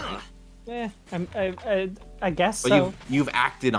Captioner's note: hems